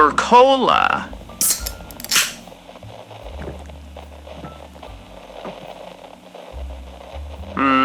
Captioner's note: he opens soda and drinks some fx